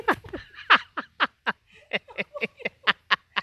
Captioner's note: laugh